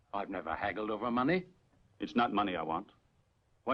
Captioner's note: none